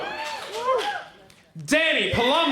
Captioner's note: crowd cheers